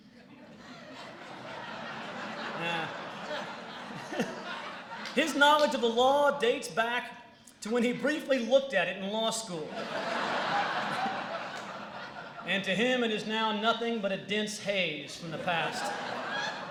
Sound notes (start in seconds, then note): 0.0 laughter; 9.6 laughter; 15.1 laughter